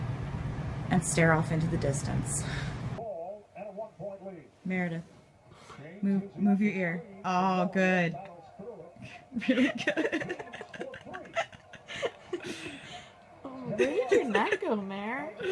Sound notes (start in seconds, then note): 9.0 laughing